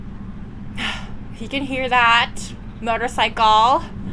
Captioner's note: exasperated sigh